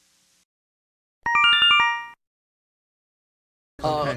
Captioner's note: Yume Nikki Instructions sound effect